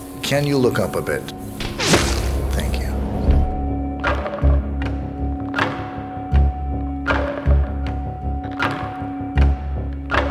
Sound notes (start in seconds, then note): 1.9 splash; 4.1 ominous music